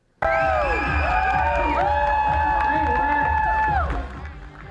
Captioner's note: cheering